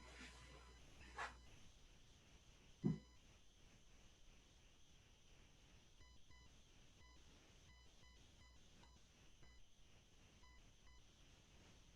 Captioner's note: silence